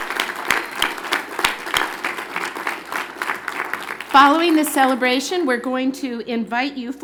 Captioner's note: cheers and Applause